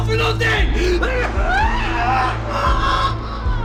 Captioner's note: threatening ambient music with pulsing rhythm; screams of pain